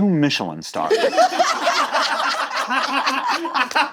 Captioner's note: all laughing